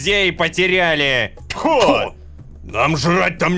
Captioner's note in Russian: Недовольство толпы